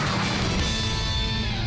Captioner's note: explosion